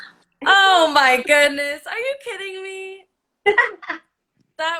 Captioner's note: gasps; laughs